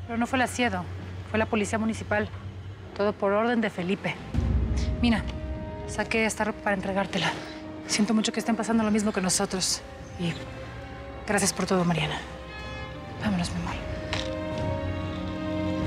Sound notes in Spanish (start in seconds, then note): none